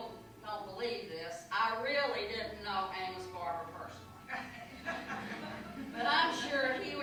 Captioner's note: laughter